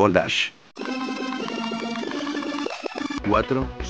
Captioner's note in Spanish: Sonido de rebobinado